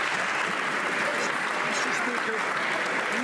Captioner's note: some Applause